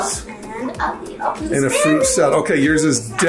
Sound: in high pitch

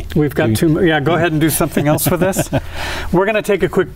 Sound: laughter

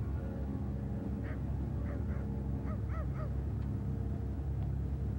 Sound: dog barking far below

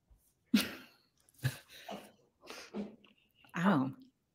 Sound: laughs

